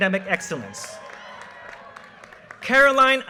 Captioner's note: audience cheers and applause